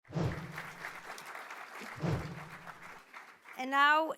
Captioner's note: applause